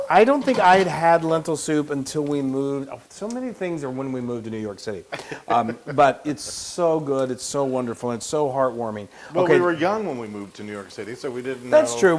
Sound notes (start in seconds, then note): 5.1 laugh